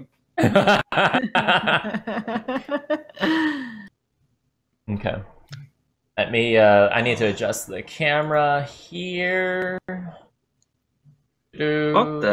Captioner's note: laughter